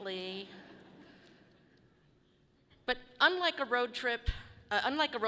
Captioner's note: audience laughing softly